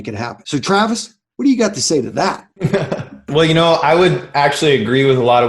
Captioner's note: laughs